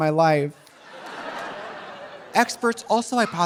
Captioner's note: audience laughing